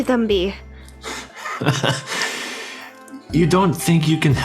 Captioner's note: laughs manaically at the mrs constantine moment